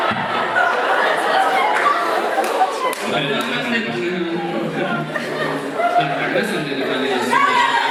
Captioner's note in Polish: Aplauz